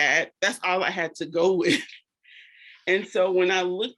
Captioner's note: chuckles